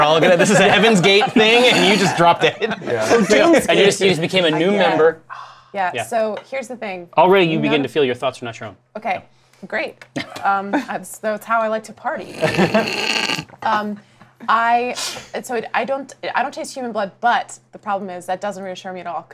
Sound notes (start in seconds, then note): 0.2 laughter; 12.4 laugher